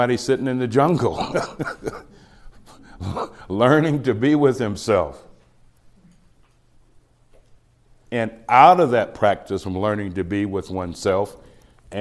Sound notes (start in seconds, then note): 1.0 laughs